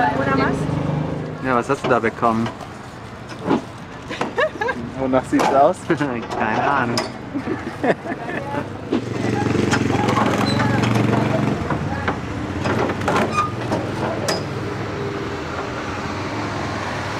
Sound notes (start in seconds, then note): 4.1 laughs